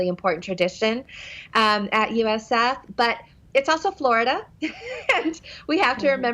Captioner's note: laughs